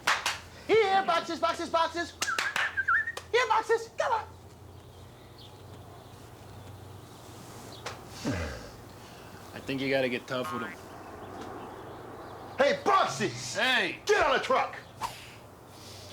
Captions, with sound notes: HERE, BOXES, BOXES, BOXES. [ WHISTLING ] HERE, BOXES. COME ON. [ SIGHS ] I THINK YOU GOT TO GET TOUGH WITH THEM. HEY, BOXES! HEY! GET ON THE TRUCK!